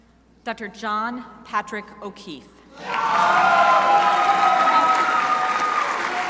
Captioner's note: crowd applauding